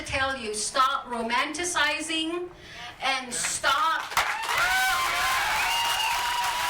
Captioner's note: audience claps and cheers